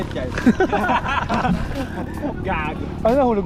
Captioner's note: laughter